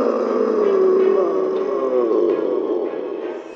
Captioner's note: Hulk roars